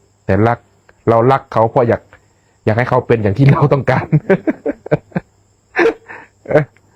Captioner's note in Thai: เสียงหัวเราะ